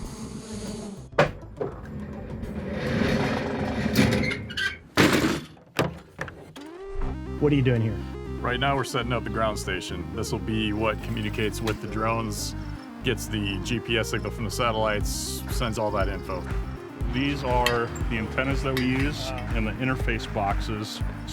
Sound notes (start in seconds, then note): 1.1 door ramp squeaking